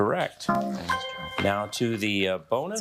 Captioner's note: bell dinging